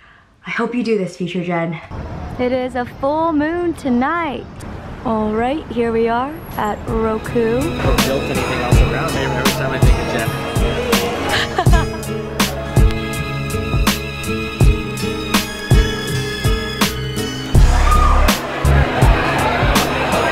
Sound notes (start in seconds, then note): 17.5 crowd chatter